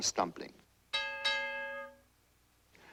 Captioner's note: dinging